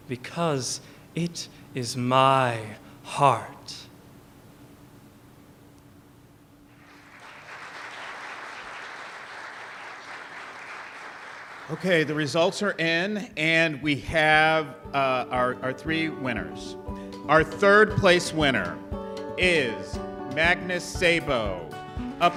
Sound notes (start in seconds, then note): 6.7 applause